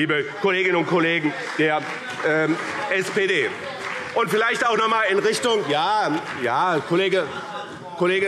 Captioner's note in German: Beifall BÜNDNIS 90/DIE GRÜNEN und vereinzelt CDU - Zurufe